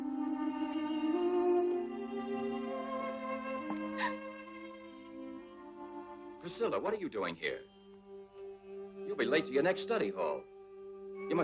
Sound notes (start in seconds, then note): 3.9 Priscilla gasps